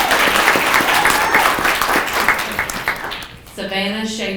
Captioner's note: people clapping